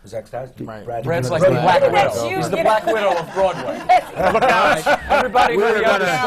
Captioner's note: laughter